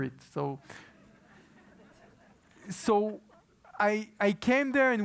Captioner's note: laugh